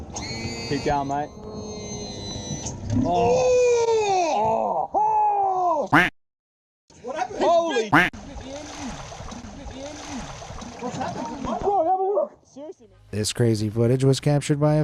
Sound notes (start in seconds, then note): 3.0 fishermen exclaiming loudly; 7.9 duck quacking; 8.0 water sloshing